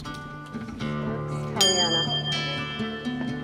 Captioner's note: ring